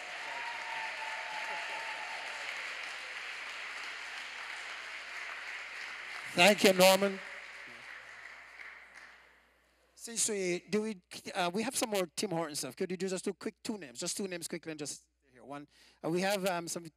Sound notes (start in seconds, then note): 0.0 applause